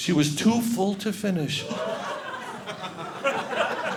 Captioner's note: audience laughing